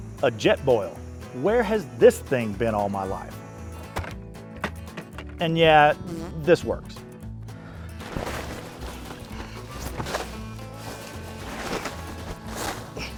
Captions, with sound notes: A Jetboil, where has this thing been all my life? (bucket hitting gravel) And yeah, this works. (tent rustling)